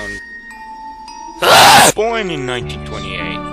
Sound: screm

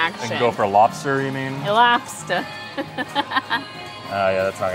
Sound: chuckles

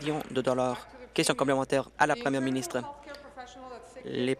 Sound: applause

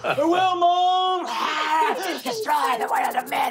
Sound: skittering

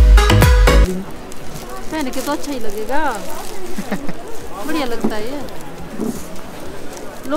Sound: laughs

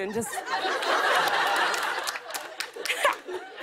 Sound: laughter

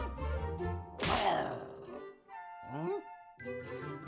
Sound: playful music; Gossamer growls; playful music

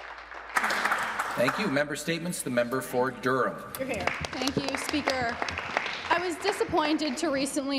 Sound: some Applause

